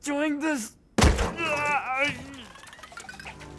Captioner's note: thud; groaning